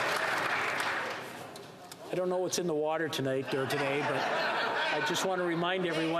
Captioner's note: some Applause